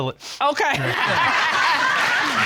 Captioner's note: all laughing